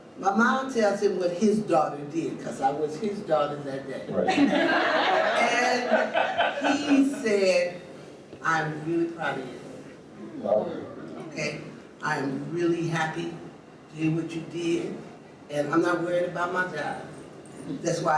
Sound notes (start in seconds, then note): 4.2 audience laughs; 10.3 audience murmurs, touched